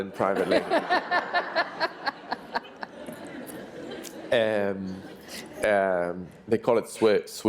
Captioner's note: laughter